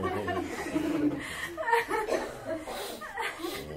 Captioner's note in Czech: Smích, ticho